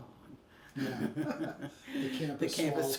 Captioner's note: both laugh